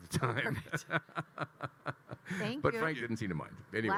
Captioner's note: Kyle laughing